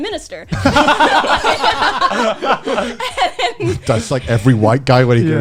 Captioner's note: laughing